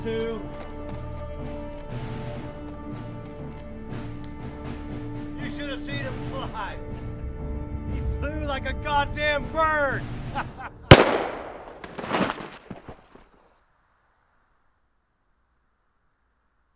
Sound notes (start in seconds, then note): 10.2 chuckling; 10.9 gunshot blasting